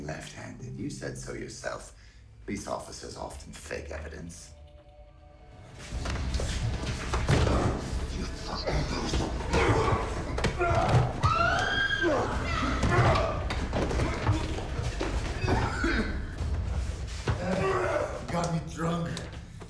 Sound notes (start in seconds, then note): 5.5 tense music; 8.1 grunts and groans; 9.0 thuds; 11.1 Nina screams; 12.3 grunts; 12.3 thud; 15.4 Bjorn coughs